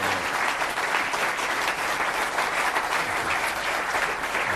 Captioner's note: applause